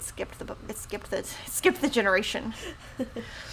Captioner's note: laughs